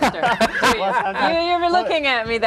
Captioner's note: laughing